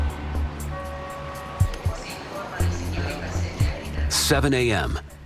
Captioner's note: woman speaking over PA